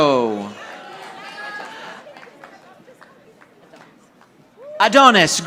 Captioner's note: audience applauding